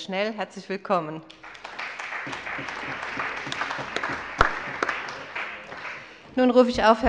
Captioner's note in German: Allgemeiner Beifall